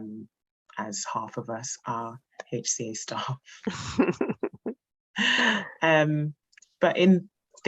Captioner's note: laughs